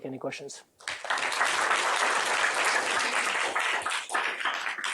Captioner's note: applause